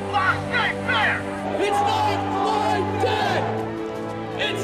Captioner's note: crowd